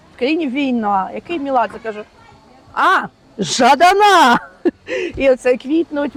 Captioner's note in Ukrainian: сміх